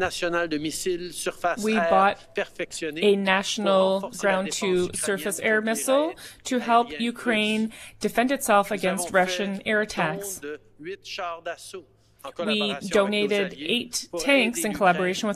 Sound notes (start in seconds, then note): 3.7 speaking French